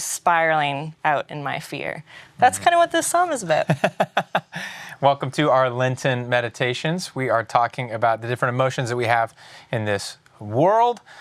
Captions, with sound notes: spiraling out in my fear. That's kind of what this psalm is about. —[Laughs.] Welcome to our Lenten meditations. We are talking about the different emotions that we have in this world